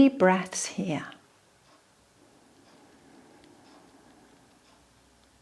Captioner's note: instructor breathing